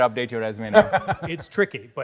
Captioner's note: Baratunde laughs